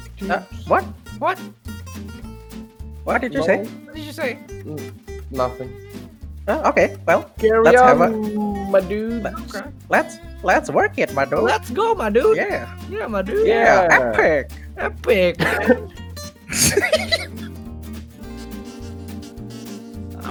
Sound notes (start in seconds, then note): 16.4 laughing